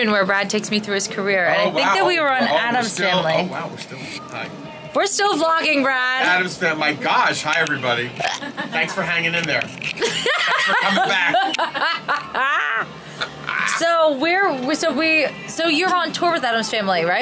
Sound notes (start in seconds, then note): 10.0 laughs